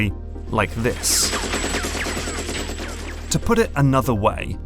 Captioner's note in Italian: sibilo dei proiettili